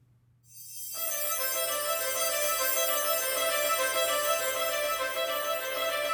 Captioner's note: chimes tinkle